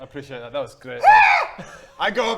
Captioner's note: frazzled caw